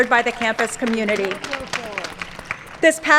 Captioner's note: applause